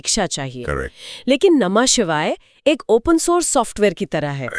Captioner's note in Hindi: नाक से की जाने वाली आवाज़